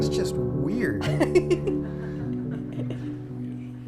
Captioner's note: laughing